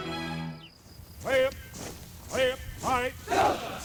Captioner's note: drill sergeant shouting